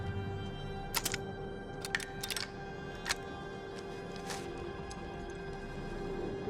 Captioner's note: pensive music; flare gun clicking